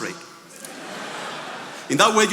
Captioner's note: attendees laughing